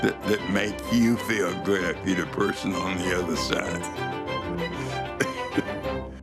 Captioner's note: laughs